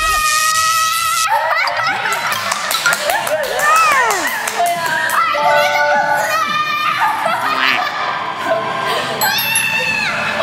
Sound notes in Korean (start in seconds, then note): 2.0 물개 박수